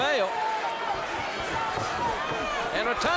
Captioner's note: crowd cheering